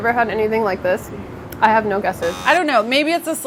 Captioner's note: buzzing